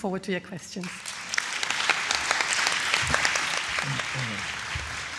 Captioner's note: attendees clapping